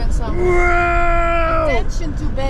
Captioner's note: yelling